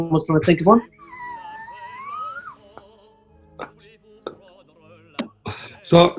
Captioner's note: giggling